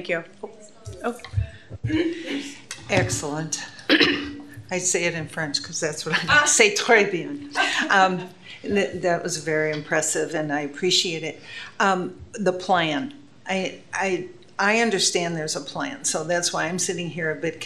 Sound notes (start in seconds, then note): 3.4 speaking French; 7.0 speaking French